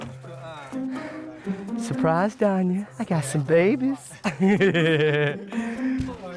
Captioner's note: laughs